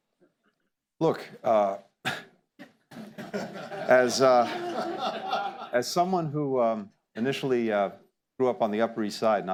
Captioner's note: laughter